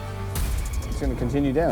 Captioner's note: air rumbles